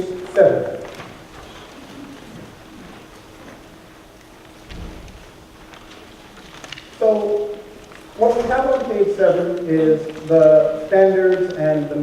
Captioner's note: pages turning